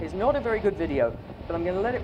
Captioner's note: crashing rapids